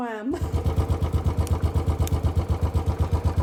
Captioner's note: laughing; bike engine